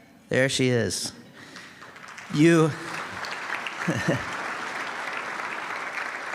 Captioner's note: applause